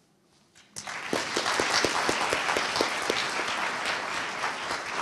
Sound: audience applauding

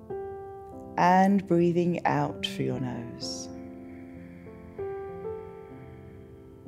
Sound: exhales

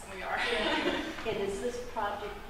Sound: laughter

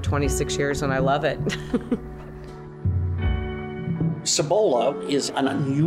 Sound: laughing

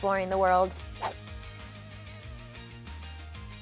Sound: whooshing

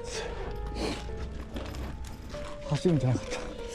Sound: panting

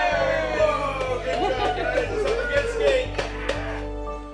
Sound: team chant; mixed shouts, laughter

